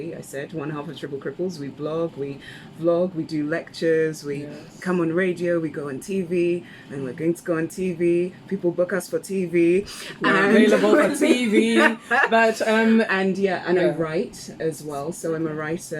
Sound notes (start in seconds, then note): 10.1 laughs